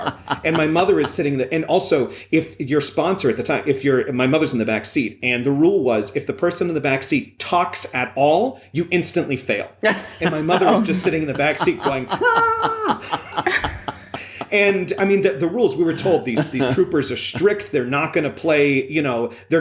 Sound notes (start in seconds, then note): 9.8 laughter; 12.8 stifled shout